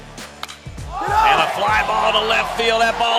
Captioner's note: bat hits ball